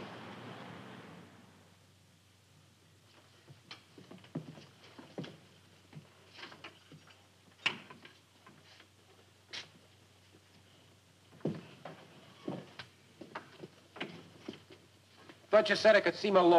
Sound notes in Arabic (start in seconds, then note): 5.7 خطوات تقترب